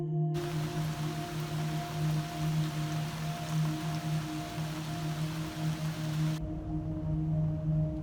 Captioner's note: raining